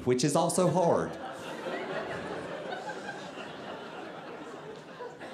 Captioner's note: audience laughing